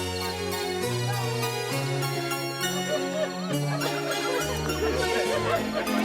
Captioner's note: laughs